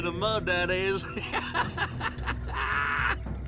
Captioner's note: laughs